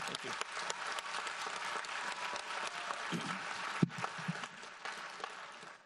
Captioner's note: audience applauds